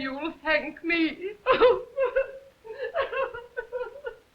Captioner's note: sobs